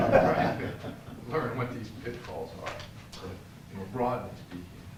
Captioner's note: laugh